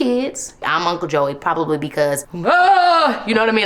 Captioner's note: shouts